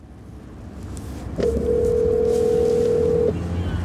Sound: phone ringing

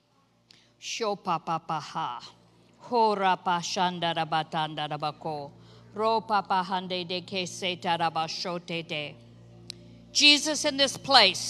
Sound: speaks in foreign language

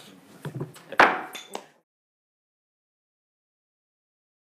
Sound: banging

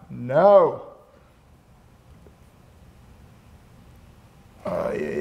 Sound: grumbles

